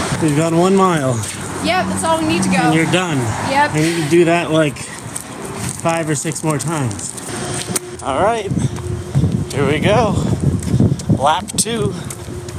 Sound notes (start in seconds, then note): 1.2 breathing heavily; 7.3 Rollerblade clasps clicking